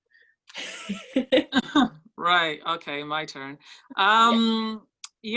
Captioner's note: laughs